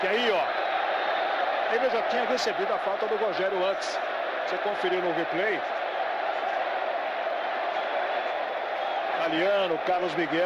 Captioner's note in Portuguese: aplausos